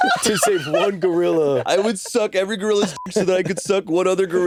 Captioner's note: beeping